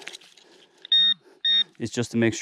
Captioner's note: pointer beeps